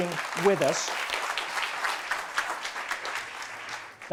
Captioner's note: audience applause